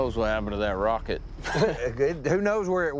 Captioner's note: chuckles